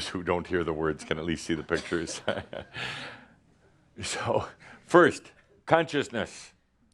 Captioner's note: Adamus chuckles